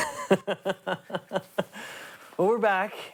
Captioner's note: laughs